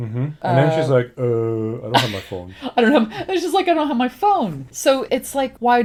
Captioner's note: laughs